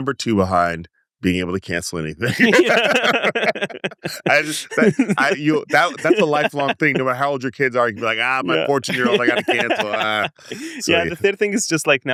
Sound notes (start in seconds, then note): 2.4 both laugh